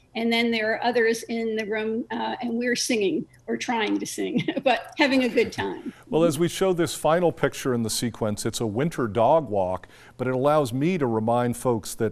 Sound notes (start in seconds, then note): 4.4 laughs